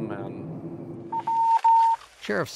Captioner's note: radio beeps